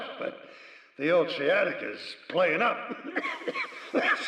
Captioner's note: coughing